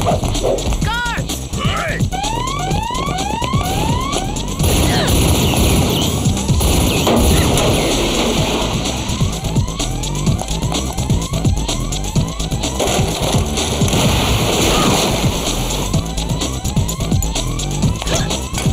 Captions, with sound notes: Oh! Guards! Hey! [alarms] [gun blasts] [crash] [alarms] [water gushing]